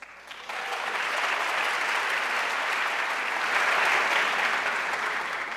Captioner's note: audience applauding